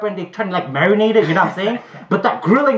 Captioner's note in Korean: 비유에 터짐